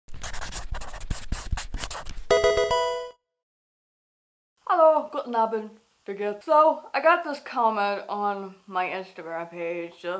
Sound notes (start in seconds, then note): 0.1 marker scratching; 2.3 electronic video game chime